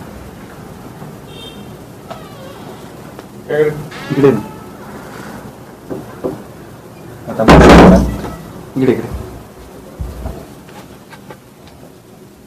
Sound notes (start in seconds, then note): 7.4 door shuts